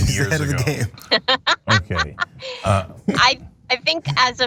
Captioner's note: laugh